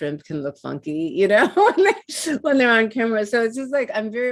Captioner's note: laughs